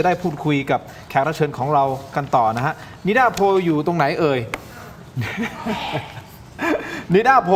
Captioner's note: laughs